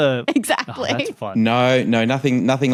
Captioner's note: giggles